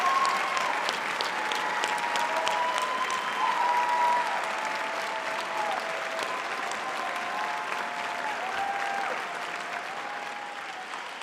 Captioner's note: audience applauding